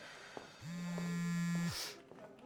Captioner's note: cell phone vibrates